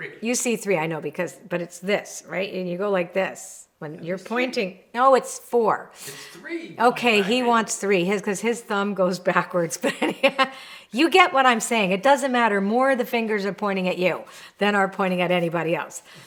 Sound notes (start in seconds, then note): 9.8 chuckles